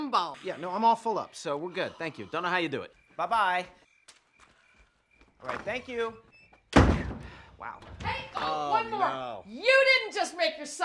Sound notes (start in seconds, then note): 6.4 door closes; 7.7 door opens